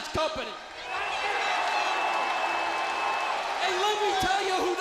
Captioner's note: crowd cheering